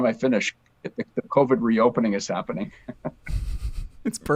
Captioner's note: laughs